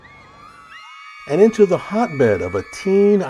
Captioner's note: fans screaming